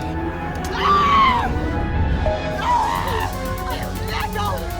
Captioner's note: Miss. Fang screaming